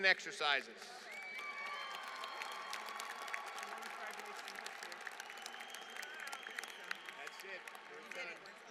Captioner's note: applause